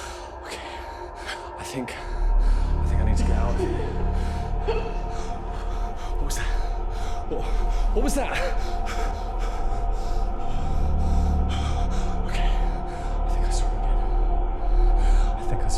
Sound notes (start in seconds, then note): 4.0 light dramatic music; 4.5 woman giggling; 9.2 heavy breathing; 10.7 suspenseful music